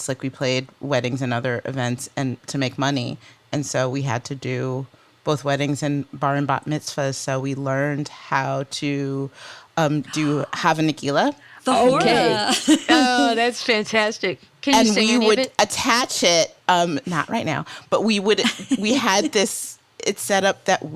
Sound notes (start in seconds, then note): 9.0 speaks foreign language